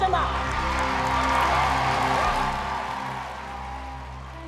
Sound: cheering

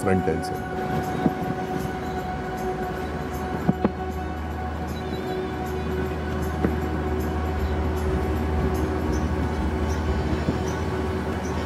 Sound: sound of vehicle in background

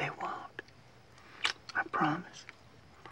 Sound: lips smacking

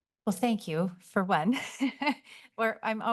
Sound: laughs

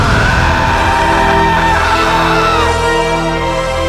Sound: screaming

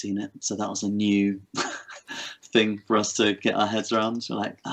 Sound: laughs

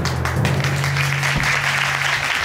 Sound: audience applauds

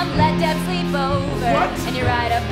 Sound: speaking

